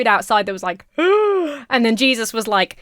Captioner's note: gasps